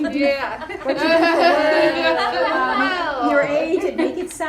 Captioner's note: laughing